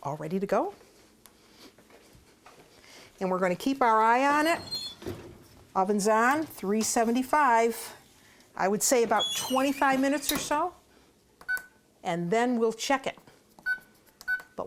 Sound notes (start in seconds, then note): 10.8 oven beeping